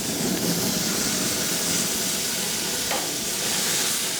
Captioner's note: pork sizzling